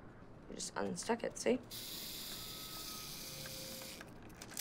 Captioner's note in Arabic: طنين المؤقت